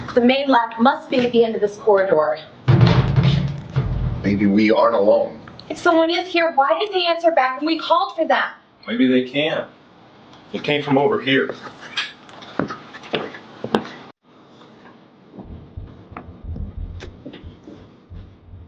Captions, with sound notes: - The main lab must be at the end of this corridor. (clattering) - Maybe we aren't alone! - If someone is here why didn't they answer back when we called for them? - Maybe they can't. It came from over here. (tense music)